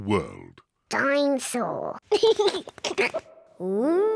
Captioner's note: giggles